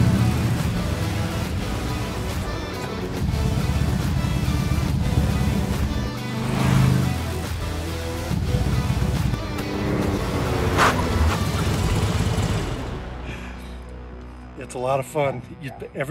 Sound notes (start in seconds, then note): 6.8 engine roars; 10.8 tires crunch